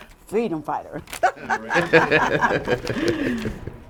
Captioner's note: laughing